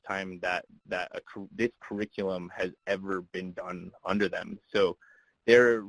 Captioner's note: voice muffled